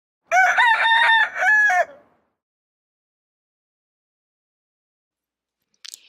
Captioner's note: crowing